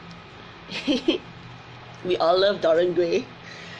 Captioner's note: laughs